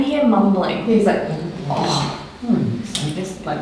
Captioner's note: mimicking mumbling